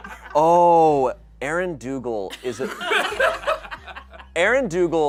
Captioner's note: audience laughing; audience laughing